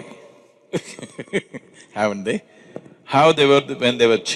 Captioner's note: laughs